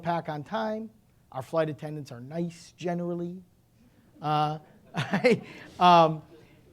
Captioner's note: laughing